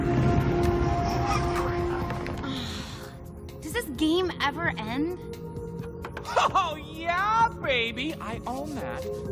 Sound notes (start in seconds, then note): 2.3 sighing